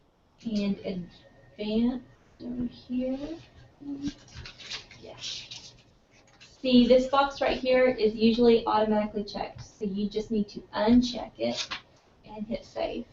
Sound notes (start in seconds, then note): none